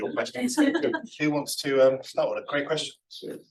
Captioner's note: everybody laughing